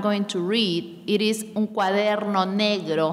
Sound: speaking in a foreign language

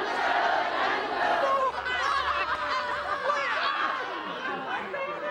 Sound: shouting, gagging noises; excited chatter

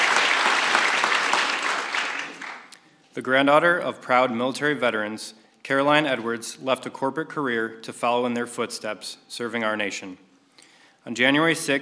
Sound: applause

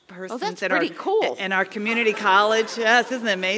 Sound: laugh

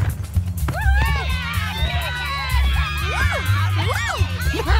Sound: cheering

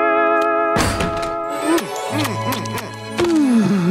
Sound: smooching

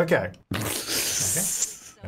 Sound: chuckles

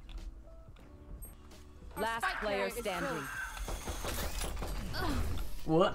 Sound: Raze boombot noises

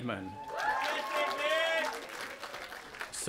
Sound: cheering

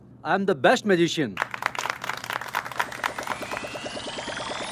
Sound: applause

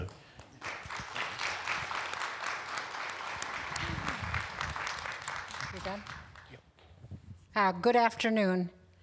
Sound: applause

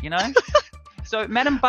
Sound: laughing

